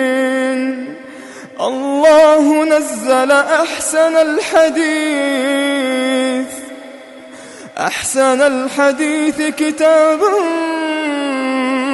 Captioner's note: in awe